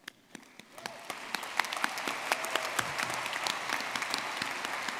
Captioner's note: audience clapping